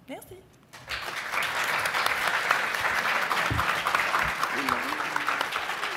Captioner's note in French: applaudissements